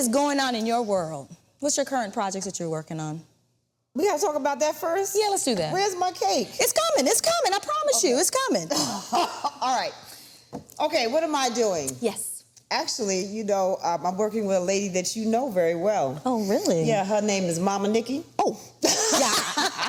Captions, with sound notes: is goin' on in your world? What's your current projects that you're workin' on? - We gotta talk about that first? - Yeah, let's do that. - Where's my cake? - It's comin', it's comin'. I promise you, it's comin'. - Okay. (laughs) All right. Okay, what am I doing? - Yes. - Actually, I'm working with a lady that you know very well. - Oh, really? - Yeah, her name is Momma Nikki. - Oh, yeah. (Vernee laughs)